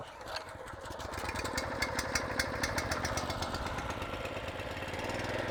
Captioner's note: lawnmower sound